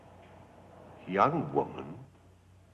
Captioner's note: none